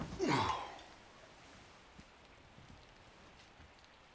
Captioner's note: Tim groans